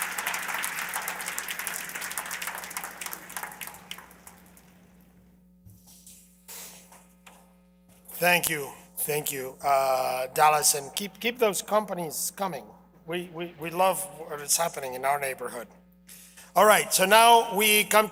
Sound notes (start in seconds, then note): 2.3 cheers and applause